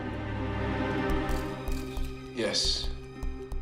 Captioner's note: somber music playing; camera shutters click